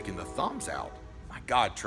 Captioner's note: train horn